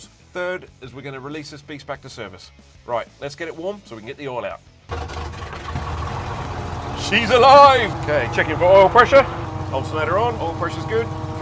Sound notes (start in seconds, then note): 4.8 engine rumbles